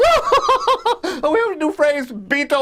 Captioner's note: laughs